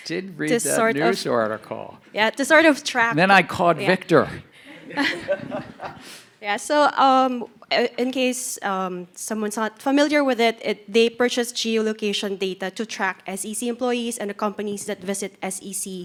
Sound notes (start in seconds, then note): 4.7 audience laughing